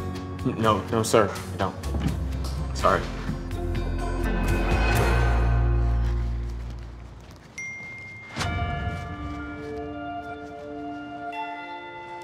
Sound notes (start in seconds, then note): 7.4 phone dings; 8.4 dramatic music